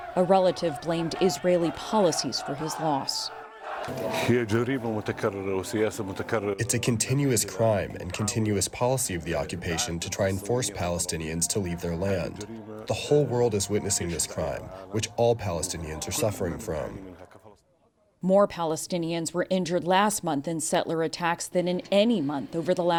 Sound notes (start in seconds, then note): 5.9 through translator